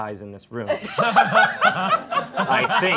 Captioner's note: all laughing